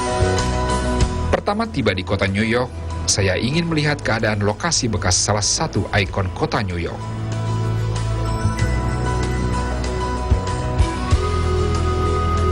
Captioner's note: non-english speech